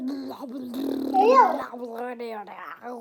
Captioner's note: maniacal child sounds